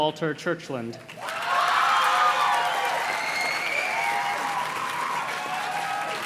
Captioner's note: audience cheers and claps